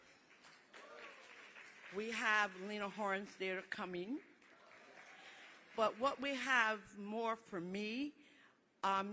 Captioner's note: applause